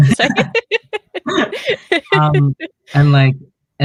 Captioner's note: laughs